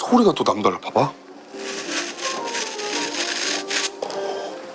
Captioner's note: Crunch